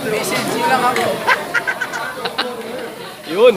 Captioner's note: chuccles